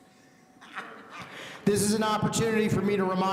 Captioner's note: laughing